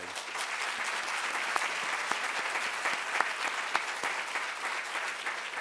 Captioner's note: applause